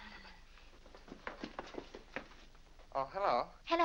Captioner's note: brisk footsteps down stairs